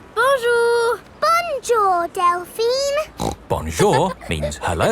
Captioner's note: snorts